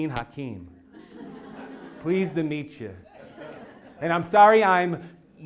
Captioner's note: laugh